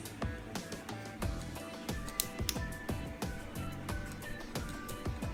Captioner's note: pieces snapping together